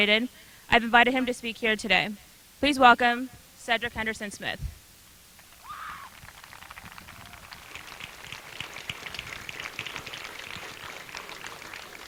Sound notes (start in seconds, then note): 5.8 applause